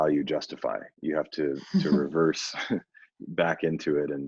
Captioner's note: laughs